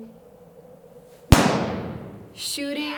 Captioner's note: gunshot